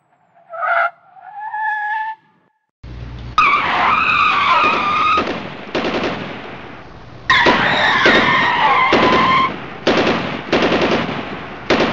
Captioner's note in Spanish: frenadas autos-disparos-corridas